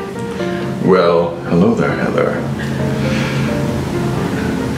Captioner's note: in a deep voice